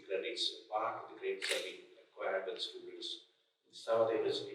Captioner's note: clicking drowning out speaker